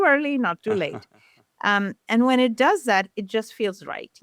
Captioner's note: chuckles